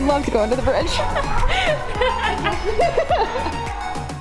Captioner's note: laughter